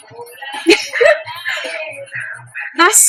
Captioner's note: laugh